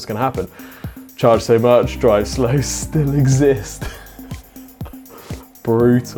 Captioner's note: laughs